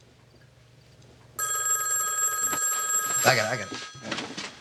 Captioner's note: phone rings